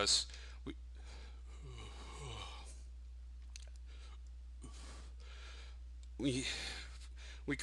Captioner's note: yawning